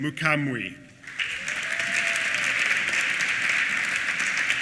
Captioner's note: applause